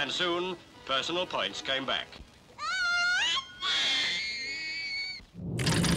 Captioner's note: child screams